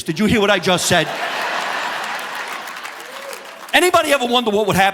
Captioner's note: audience laughing